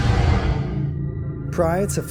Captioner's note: whooshing